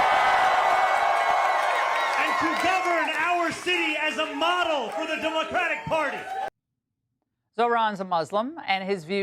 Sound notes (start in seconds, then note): 0.0 cheers; 5.0 cheers